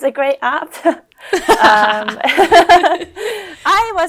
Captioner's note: both laugh